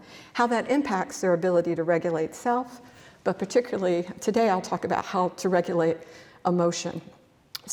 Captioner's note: none